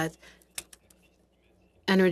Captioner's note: speaking French